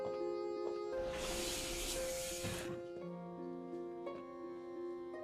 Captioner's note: sliding door whooshing; somber music